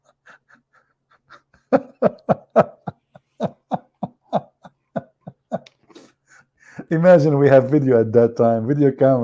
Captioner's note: Ketawa